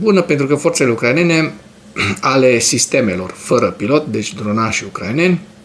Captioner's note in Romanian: voce dreasă